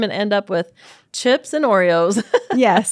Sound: laughs

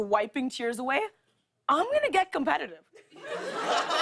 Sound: laughter

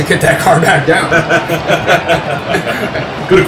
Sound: laughs

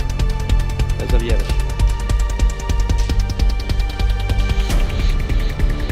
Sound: speaks in foreign language

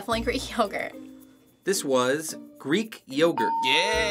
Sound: ding

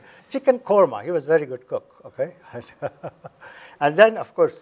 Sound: chuckles

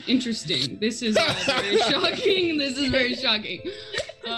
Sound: group laughs

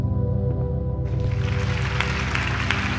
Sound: applause

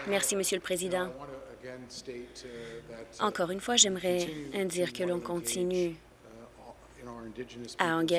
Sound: applause

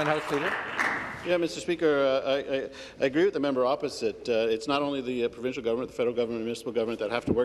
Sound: applause

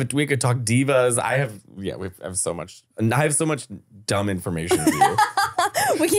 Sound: foreign language

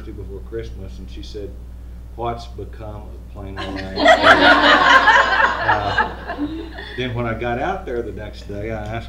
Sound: laughter

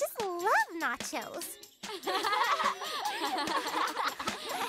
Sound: laughing together

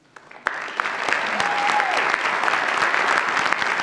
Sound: audience applauds

